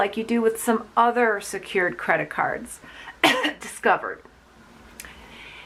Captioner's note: coughing